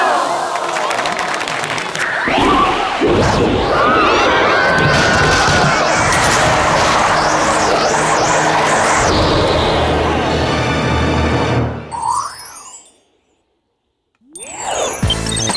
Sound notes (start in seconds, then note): 0.2 explosion; 1.7 applause; 3.1 tornado sounds